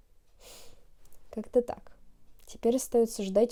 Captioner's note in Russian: вздох